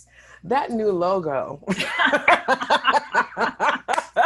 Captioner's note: laughing